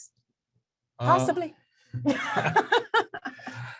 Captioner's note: laughs